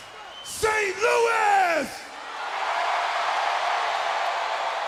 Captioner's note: crowd cheering